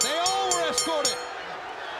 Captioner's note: bell ringing